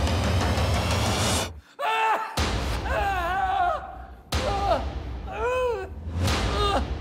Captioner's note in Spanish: Gritos